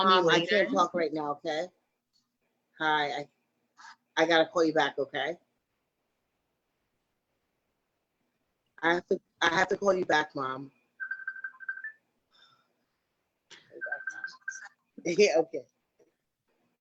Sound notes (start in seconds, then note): 12.5 cell phone ringing